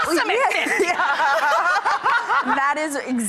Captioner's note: laughter